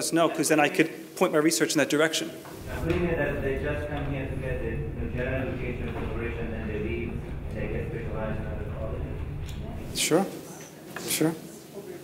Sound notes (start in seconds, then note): 2.5 foreign man speaking